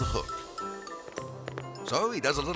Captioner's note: shoes tapping; cheerful music